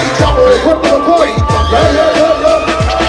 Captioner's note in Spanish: grito guerrero